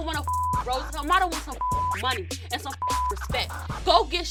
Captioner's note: beep